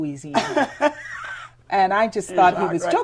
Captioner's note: laughter